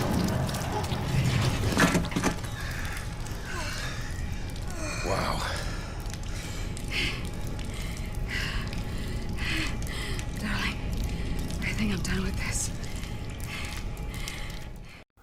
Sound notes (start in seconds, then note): 1.7 thunk